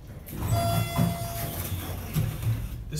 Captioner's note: elevator Chimes